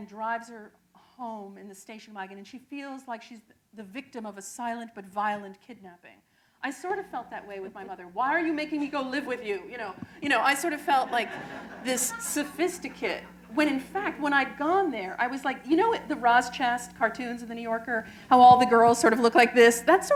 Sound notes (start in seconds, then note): 10.7 laughter